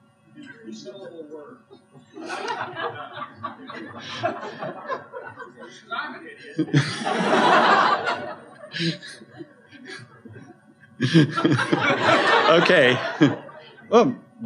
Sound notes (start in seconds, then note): 1.7 laughter